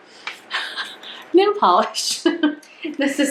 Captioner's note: laughs